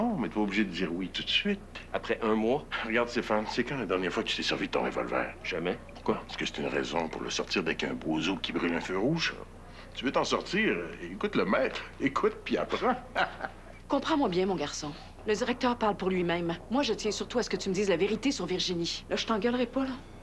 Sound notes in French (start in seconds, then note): 12.6 Rire